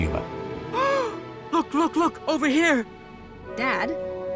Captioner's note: gasps